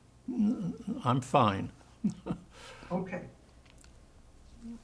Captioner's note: laughing